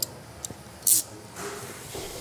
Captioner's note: rattling noise